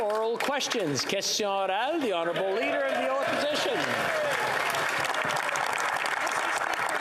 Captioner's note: applause